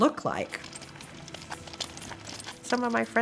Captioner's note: walker on asphalt